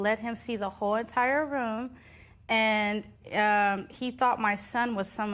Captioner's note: none